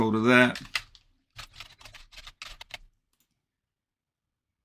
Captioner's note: keyboard clicking; mouse clicking